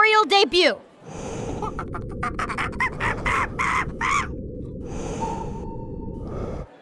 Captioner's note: monkey screaming